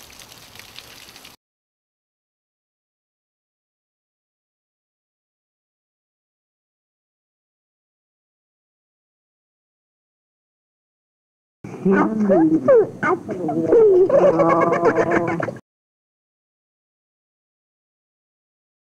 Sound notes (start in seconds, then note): 1.2 silence